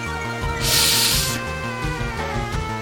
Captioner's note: sharp inhale